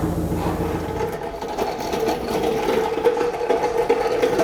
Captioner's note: wheels rolling